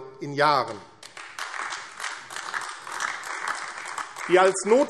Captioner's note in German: Beifall AfD